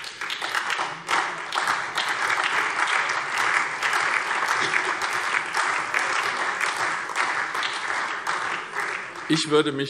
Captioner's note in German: Beifall SPD, Freie Demokraten und DIE LINKE